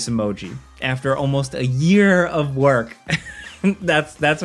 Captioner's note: chuckles